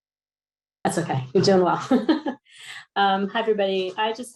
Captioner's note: laughs